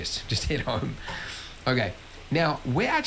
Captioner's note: laughs